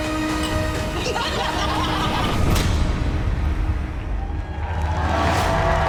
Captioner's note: group laughing; glasses clink; audience applauds and cheers